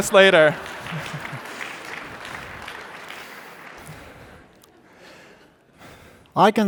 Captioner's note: audience laughing and applauding